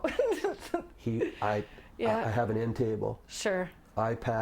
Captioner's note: laughing